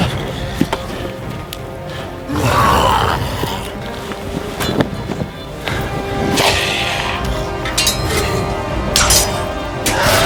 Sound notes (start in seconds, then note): 2.2 growling; 7.1 weapons clanging